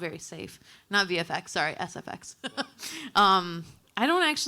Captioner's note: laughing